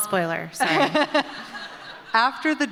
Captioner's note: laughter